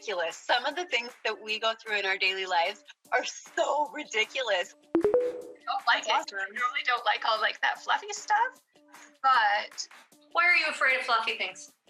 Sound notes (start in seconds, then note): 4.9 tones